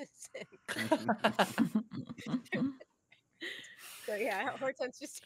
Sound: all laughing

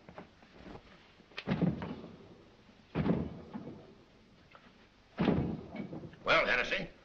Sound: thudding

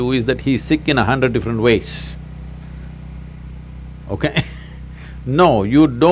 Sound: laughs

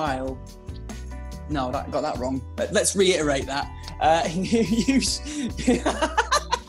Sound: laughter

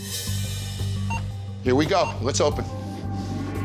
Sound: timer beeping

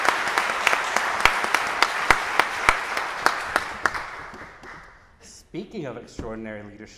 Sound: applause

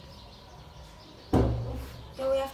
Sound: thud

